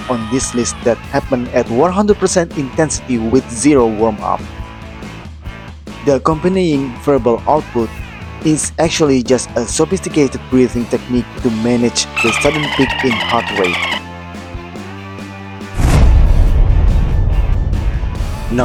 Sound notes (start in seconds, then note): 7.7 screaming